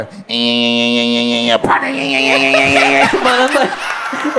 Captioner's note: pedaling sound